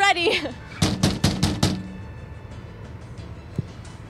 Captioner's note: door pounding